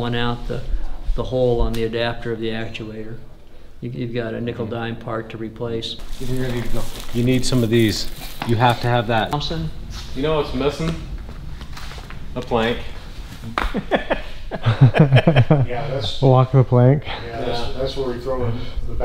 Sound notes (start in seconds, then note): 6.0 plastic crinkling; 13.5 camera Man laughs